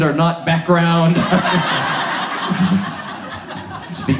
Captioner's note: audience laughs